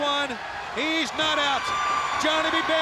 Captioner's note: crowd cheering